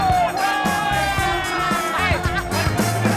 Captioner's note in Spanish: Gritos y exclamaciones; Risas